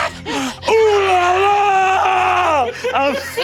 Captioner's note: screaming